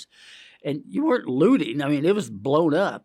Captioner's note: inhales